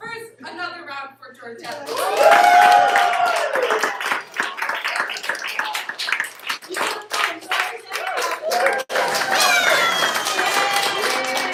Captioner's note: applause